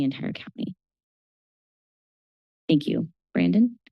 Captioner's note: pause